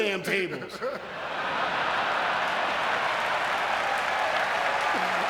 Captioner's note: audience cheering and clapping